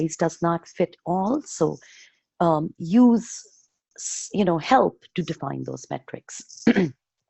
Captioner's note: clearing throat